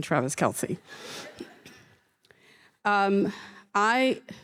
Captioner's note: audience laughing